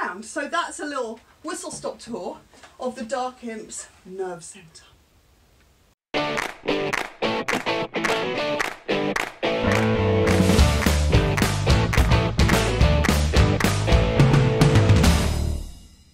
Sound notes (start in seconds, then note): 6.2 claps